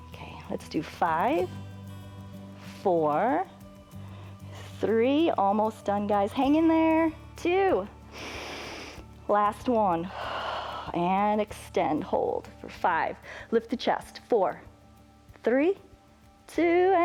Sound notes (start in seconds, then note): 8.0 exhales; 8.1 inhales